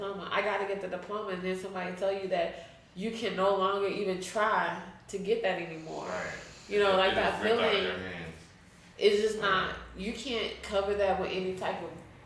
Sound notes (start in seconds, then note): 8.5 speaking faintly